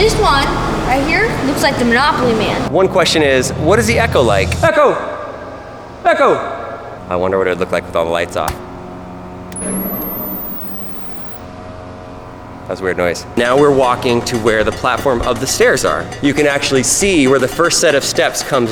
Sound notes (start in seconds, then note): 9.4 electrical humming; 9.5 loud click